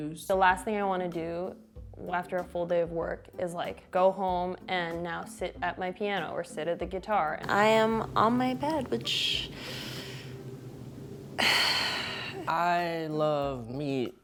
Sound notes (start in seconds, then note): 11.3 sighs